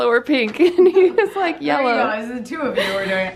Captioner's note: laughs